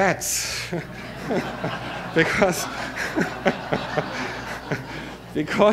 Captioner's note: audience laughter